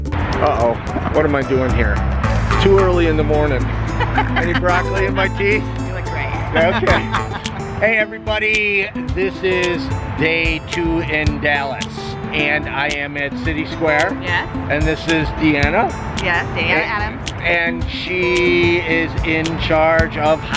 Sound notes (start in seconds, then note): 6.1 laughs; 6.3 chuckles